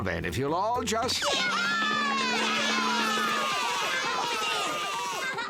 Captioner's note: cheering, shouting